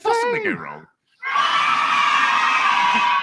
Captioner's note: applause